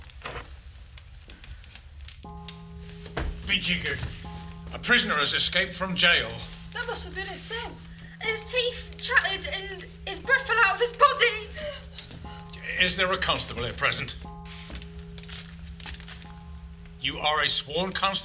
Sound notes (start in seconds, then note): 2.4 distant tolling of a bell